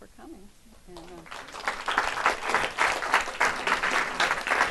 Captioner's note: audience claps